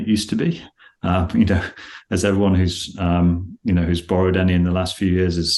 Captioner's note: laughs